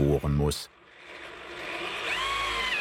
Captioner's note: drilling noises